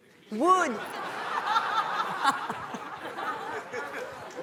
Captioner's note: audience laughing